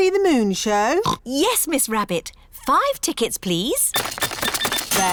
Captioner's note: oinks